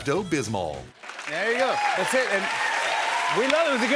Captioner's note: cheers and applause